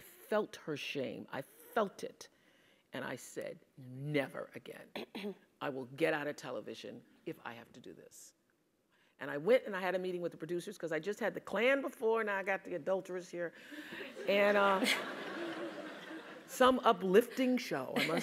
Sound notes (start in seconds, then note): 5.0 cough; 13.8 laugh